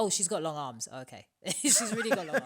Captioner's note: laughter